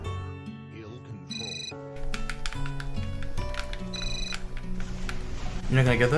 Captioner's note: cell phone rings